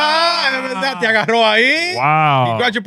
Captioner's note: all Yelling; speaking In Foreign Language